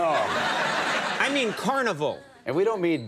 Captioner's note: audience laughing